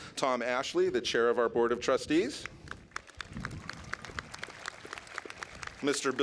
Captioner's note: clapping